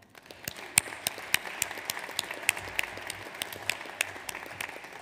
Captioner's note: audience applauds